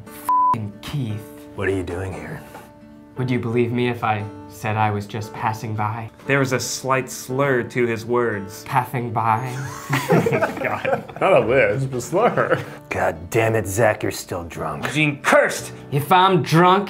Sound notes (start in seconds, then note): 7.7 with a lisp; 9.5 laughing